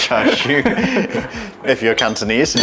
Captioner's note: laughter